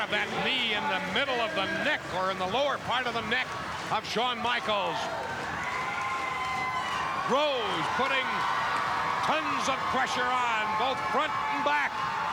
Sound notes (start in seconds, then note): 5.7 audience cheering